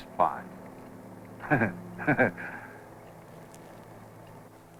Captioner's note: laughs